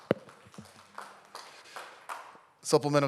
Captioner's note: audience Applauds